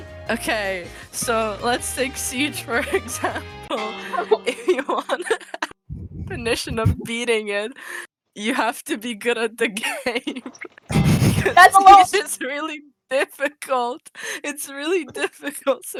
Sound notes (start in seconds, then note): 10.9 laughs